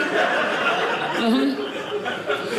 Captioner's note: audience laughing